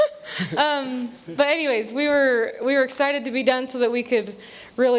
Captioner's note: laughther